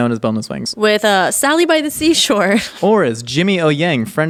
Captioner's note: laughing